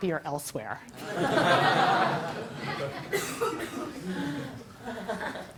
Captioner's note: laugh